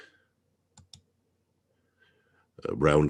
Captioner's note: mouse clicking